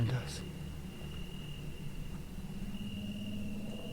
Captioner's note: insects chirping